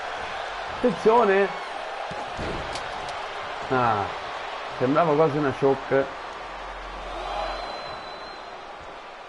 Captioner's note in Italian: Applauso